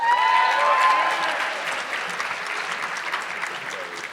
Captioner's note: audience clapping